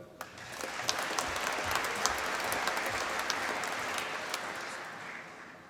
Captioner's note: applause